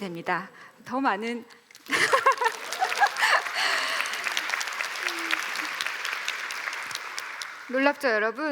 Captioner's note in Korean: 박수